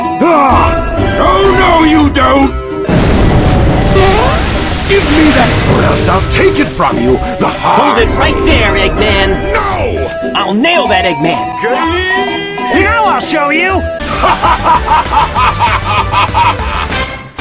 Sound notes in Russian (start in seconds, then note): 2.8 бумс